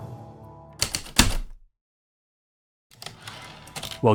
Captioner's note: typewriter keystrokes, return slide